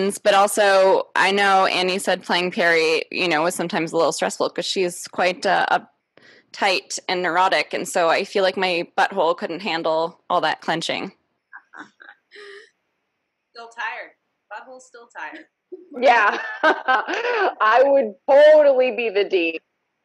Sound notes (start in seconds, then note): 15.8 laughs